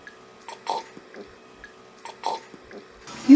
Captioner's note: slurping